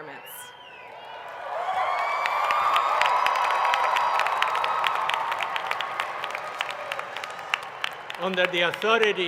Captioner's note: applause